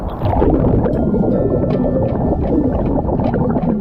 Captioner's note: suspenseful music; water bubbling